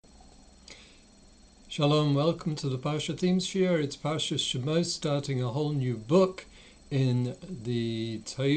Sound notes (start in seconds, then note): 1.0 Hebrew